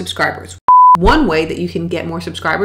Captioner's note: beep